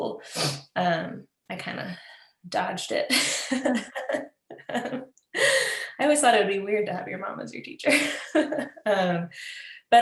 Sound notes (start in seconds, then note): 3.0 laughs